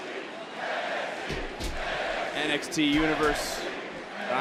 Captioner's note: crowd chants